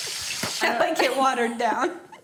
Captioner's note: laughing